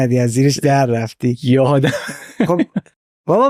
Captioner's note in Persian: خنده